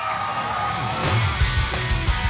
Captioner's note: crowd cheering; hard rock music